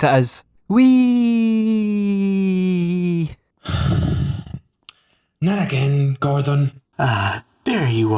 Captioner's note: sigh